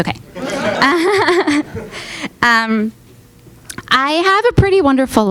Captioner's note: audience laughing